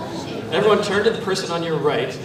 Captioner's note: foreign language